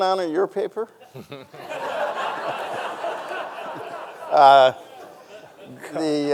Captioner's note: audience laughing; chuckles